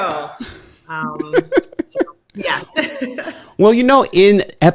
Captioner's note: laughing